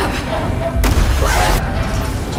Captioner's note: explosion rings